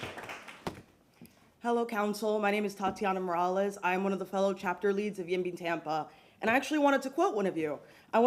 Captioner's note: applause